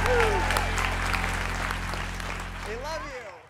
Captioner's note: applauding